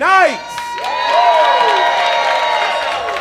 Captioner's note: audience applause